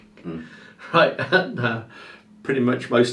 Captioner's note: chuckling